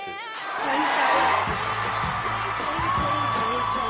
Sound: crowd cheers

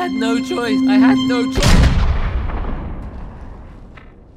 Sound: gunshot

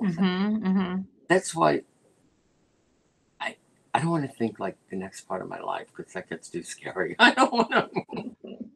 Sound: laughter

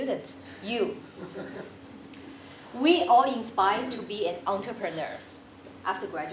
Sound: laugh

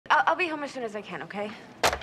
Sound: stammering

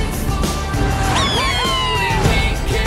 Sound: cheering

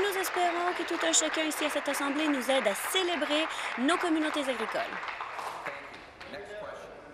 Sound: applause

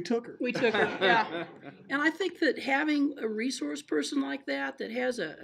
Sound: laughing

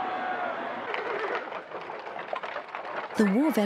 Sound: hooves clacking

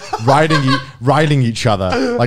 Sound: laughing

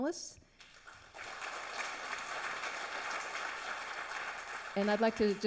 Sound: audience applauds

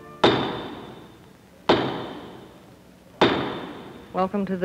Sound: gavel banging

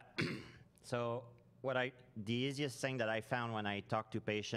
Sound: clears throat

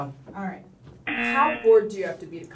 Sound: buzzer

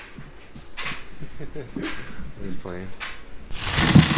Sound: laughing

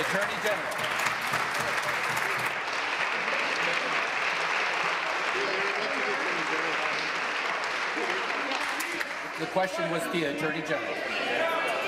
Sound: applause

